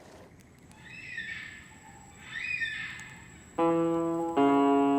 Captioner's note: bird squawking